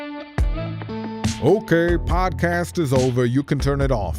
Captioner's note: moody electronic music; voiceover